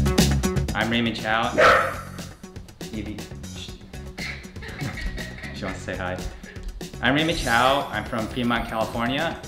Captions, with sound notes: I'm Raymond Chou. -[dog barks] -Eevee. Shh. -[interviewer laughs] -She wants to say hi. I'm Raymond Chou. I'm from Fremont, California,